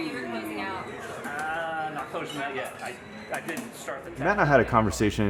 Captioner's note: soft Voice